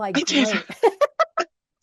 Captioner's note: laughs